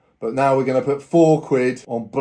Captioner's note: none